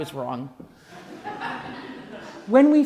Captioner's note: laughing